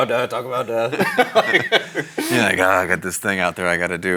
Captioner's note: both laughing